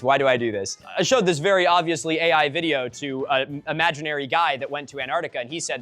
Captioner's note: mocking